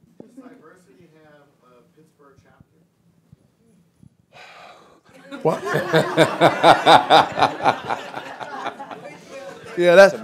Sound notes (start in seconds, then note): 4.3 sighs; 5.1 laughter, chatter